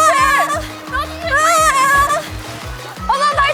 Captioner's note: splash